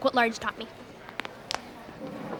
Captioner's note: cracking sounds